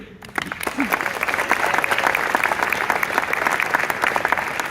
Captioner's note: audience claps